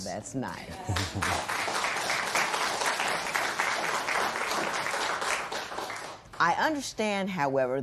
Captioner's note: applause